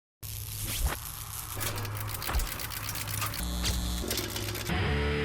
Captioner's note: logo buzzing and whirring